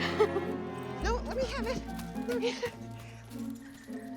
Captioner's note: laughing